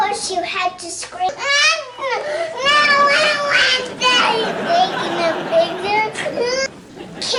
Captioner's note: screaming